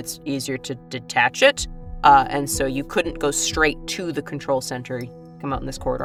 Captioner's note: none